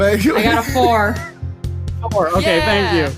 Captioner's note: laughs